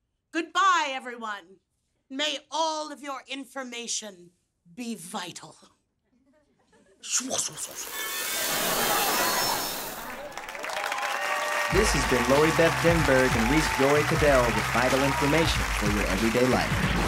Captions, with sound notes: Goodbye, everyone. May all of your information be vital. [laughing] [applause] This has been Lori Beth Denberg and Reece Joy Caddel, with Vital Information for your everyday life.